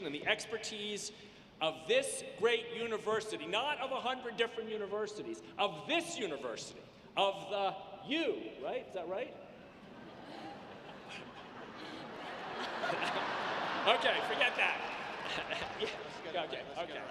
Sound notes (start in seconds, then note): 9.7 audience laughs